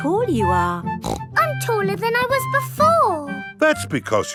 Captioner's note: snorts